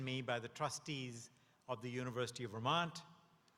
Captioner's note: none